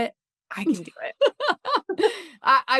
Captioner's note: laughter